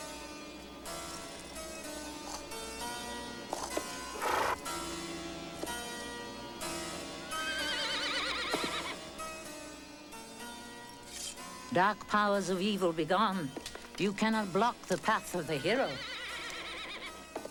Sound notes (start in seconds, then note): 4.1 snorts; 7.4 neighing